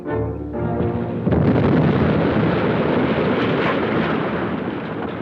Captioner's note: dynamite explodes